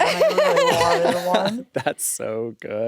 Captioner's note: laugh